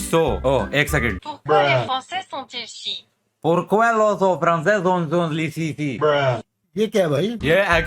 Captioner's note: "French" language